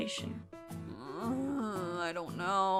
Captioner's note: Arbor groaning